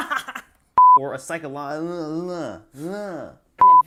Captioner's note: beep